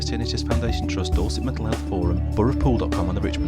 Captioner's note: voiceover